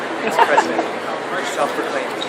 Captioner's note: laughs